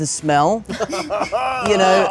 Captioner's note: laughter